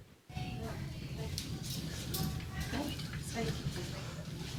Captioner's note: audience chattering